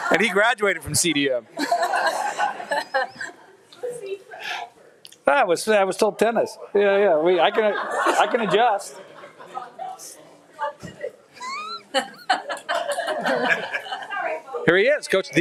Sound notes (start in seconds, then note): 9.0 people laughing